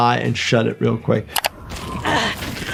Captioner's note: mouse clicking; wind whistling